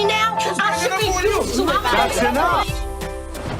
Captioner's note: arguing